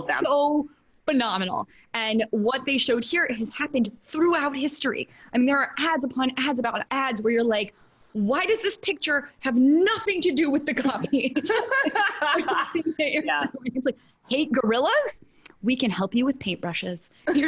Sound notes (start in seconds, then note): 10.9 laugh